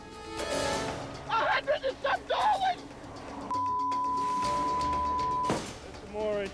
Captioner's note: tense music; beep